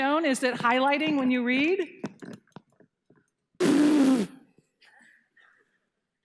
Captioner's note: blowing air